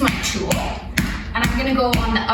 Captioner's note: massage tool clapping